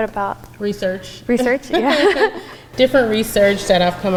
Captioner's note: laughs